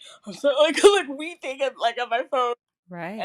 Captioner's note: loughs